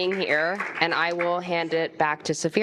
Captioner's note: applause